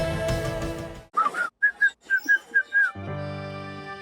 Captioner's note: whistles